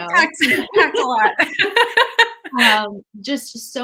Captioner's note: laughs